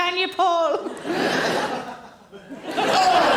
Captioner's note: audience laughing